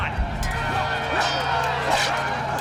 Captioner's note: metal clanging